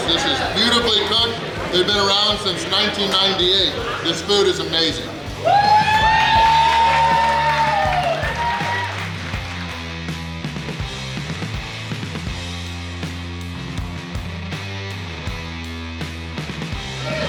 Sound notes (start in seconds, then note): 5.3 cheering; 9.4 bouncy upbeat music